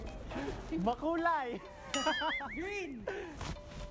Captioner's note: laughs